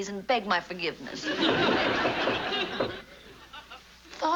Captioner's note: knocking at door